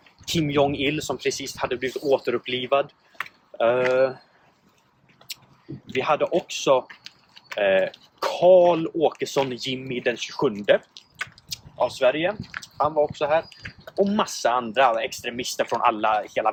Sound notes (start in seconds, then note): 5.2 third lip smack; 11.0 fourth lip smack